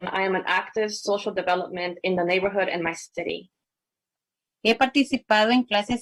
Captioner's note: spanish